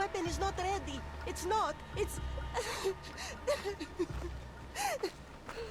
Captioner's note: sobbing